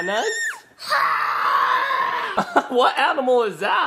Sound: roars; laughs

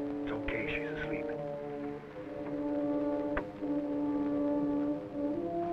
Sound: whispering

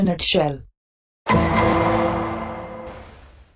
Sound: Order and Law sound effect

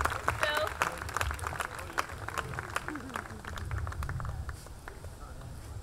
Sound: audience clapping

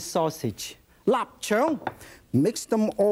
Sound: foreign language

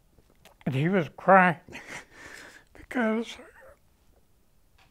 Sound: sobs

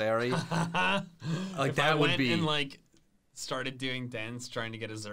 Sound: laughs

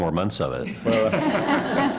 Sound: laughter

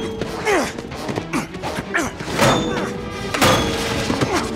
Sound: grunts

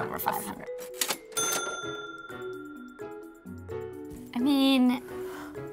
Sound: cash register rings

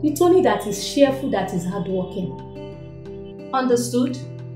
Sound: none

